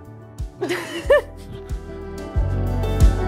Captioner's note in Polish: śmiech